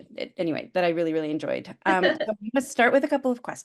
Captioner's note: laughs